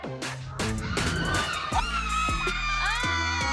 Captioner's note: screaming joyfully